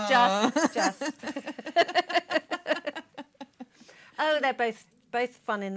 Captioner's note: laughter